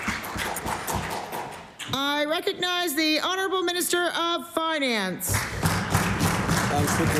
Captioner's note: applause